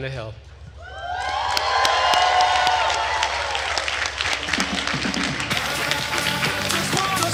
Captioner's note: attendees cheering and applauding